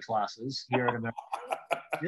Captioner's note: laughs